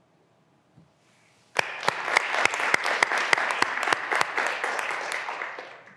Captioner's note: graduands applauding